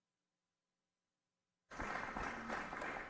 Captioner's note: applause